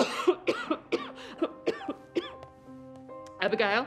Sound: Raine coughing

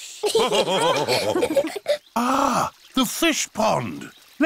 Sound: all laughing

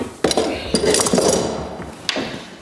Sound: clink of metal

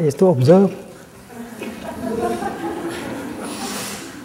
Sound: laughter

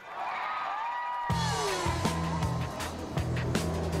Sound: cheering

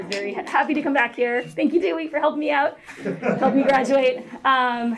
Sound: laughter

